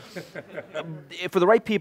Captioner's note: laughter